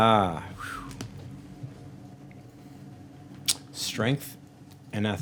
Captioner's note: whistling